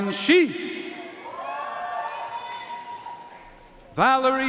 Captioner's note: audience cheering and applauding